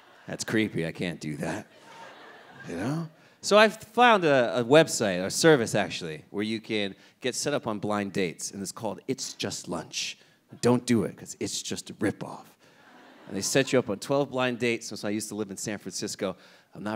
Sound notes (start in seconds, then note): 1.5 audience laughing